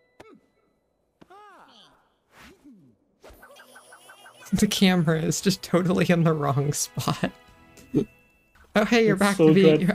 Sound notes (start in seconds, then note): 3.4 laughing; 7.7 slight laugh